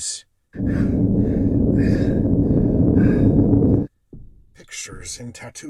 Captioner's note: heavy breathing